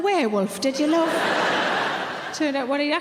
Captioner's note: audience laughing